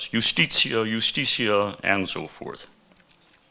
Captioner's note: speaking in foreign language